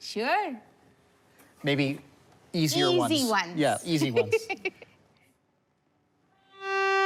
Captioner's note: laughs